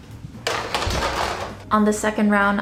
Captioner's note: upbeat music; rattling sound